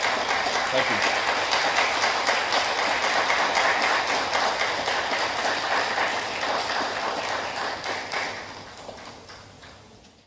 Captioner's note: applause continues